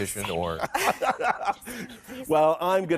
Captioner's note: laughing